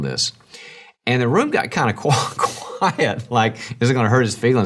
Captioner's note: laughs